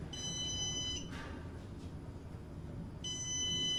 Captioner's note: elevator beeping